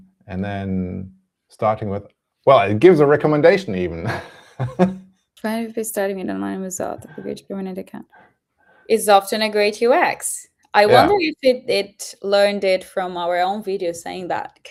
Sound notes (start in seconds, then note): 3.9 laughs